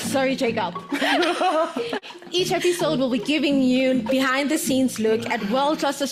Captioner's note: laughs